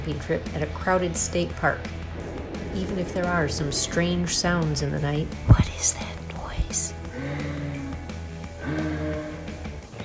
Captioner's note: weird grunting